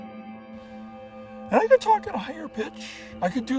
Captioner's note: squeaky voice